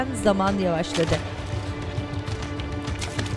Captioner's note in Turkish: Su sıçratma sesi